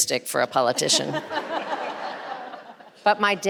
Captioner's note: audience and panelists laughing